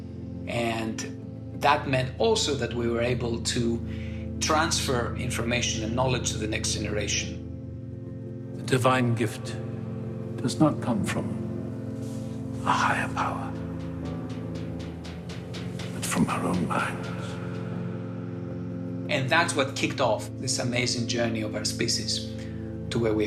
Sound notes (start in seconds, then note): 7.5 soundbite of tv show, "westworld"